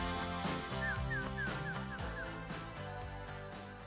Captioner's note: bird chirping